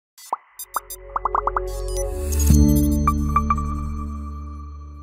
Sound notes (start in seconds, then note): 0.2 icons popping and beeping; 2.5 logo chimes